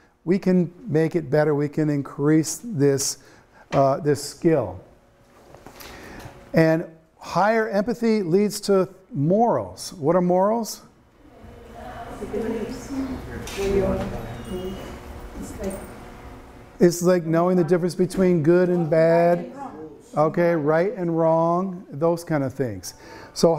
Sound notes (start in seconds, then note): 11.2 students chattering